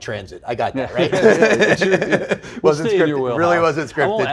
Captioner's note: laughs